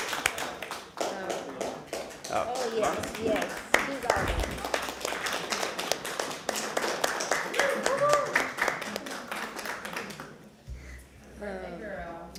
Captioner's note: applause